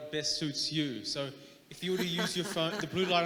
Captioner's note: laughing